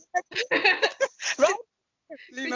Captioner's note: laughter